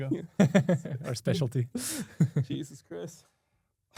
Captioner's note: laughs